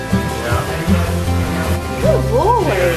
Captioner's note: indistinct chatter